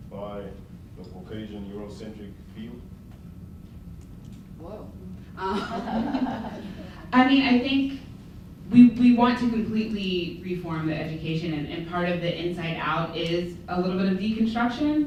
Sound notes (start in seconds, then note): 5.4 laughter